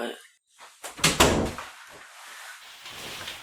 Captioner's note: door closes